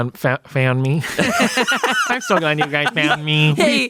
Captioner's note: everyone laughs